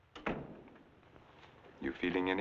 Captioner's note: door thumping